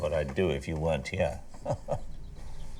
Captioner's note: laughing